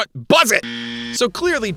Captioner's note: buzzer Sound